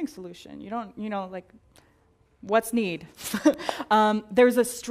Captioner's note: laugh